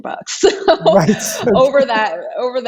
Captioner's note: laughs